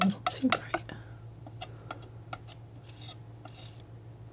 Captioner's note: tapping